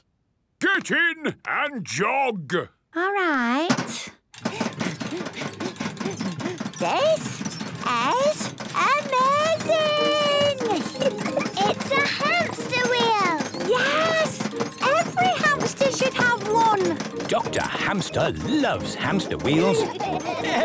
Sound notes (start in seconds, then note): 4.5 panting